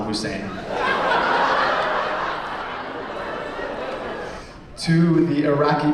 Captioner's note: laughter